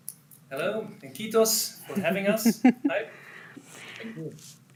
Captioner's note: host laughs